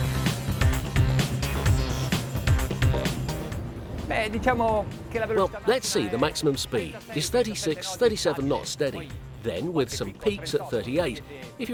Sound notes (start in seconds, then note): 0.0 driving electronic music; 4.4 speaking foreign language